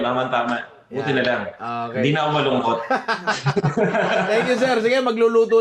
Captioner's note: laughter